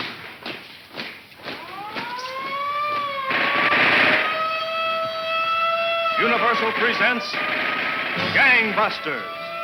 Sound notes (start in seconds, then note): 1.8 siren wails; 3.6 gun popping